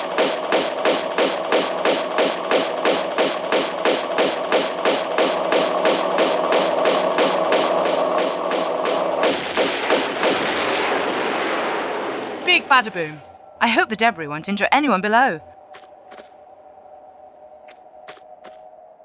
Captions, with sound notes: *Big explosions x2* Big badaboom! I hope the debris won't injure anyone below.